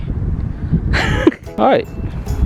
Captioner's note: laughing